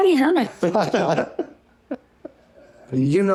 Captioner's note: laughter